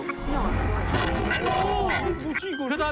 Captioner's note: suddenly crashes